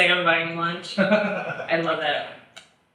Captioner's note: laughs